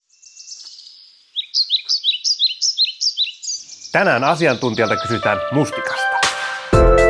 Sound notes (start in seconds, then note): 0.0 birds chirping